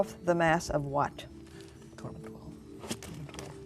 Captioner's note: whispering